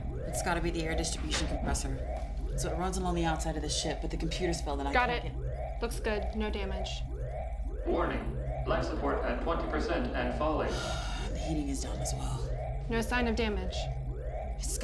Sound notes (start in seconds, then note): 10.7 sighs